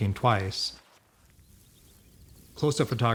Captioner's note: birds chirping